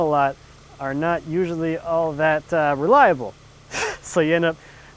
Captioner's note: chuckles